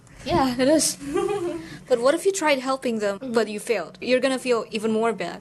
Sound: giggle

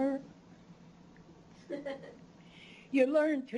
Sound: chuckles

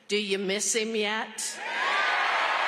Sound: cheering and applause

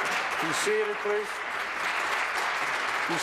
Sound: applause

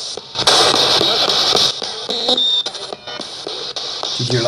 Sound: radio babbles

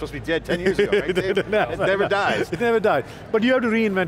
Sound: laughs

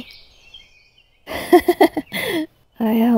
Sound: laughs

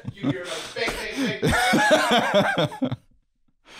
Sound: laughing

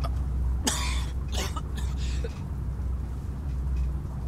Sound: coughing

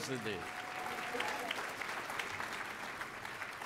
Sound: applause

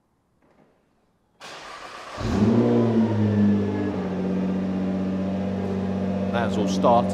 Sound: car engine starts

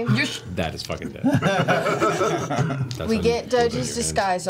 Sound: all laugh

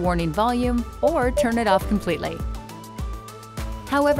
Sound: PDW beeping

